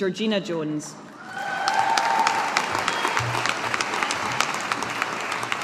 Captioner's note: audience applauding